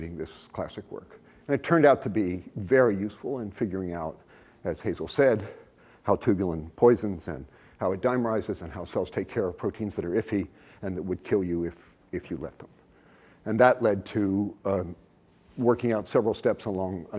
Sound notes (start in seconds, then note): none